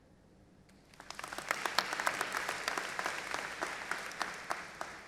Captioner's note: audience applauding